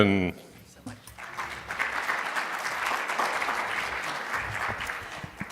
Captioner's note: audience applauding